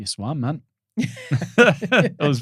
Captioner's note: laughing